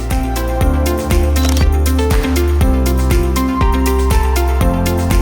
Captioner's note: camera clicks